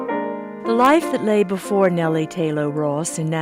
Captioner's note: voiceover